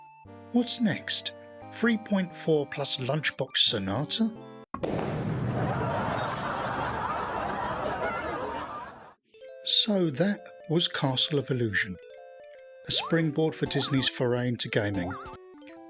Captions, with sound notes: What's next? 3.4 Plus Lunchbox Sonata?! [EXPLOSION] [AUDIENCE LAUGHTER] So, that was Castle of Illusion. A springboard for Disney's foray into gaming.